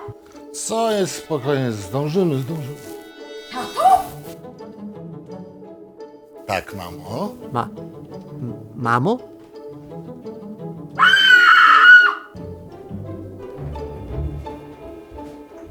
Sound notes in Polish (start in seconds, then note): 11.0 krzyk